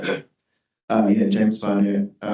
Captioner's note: clears throat